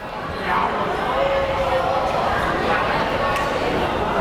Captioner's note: crowd chatter